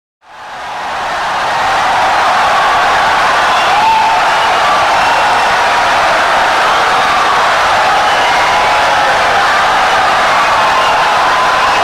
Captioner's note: wild applause and cheering for 17 seconds